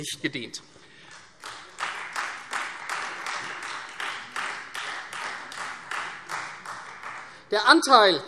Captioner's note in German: Beifall Freie Demokraten